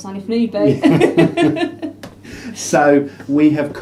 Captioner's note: both laugh